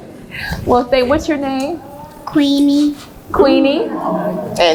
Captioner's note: laughs